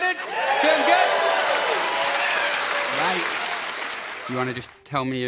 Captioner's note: audience cheering loudly